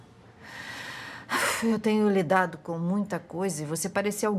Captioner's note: sighs